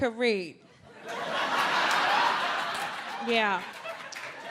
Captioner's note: audience laughs